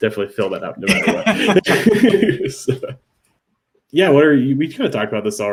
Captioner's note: laugh